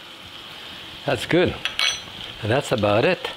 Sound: spoon clinks

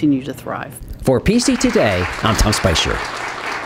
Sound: applause

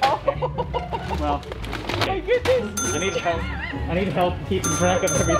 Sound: laughter

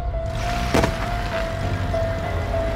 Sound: bag falls

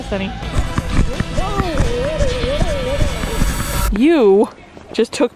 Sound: quick groaning

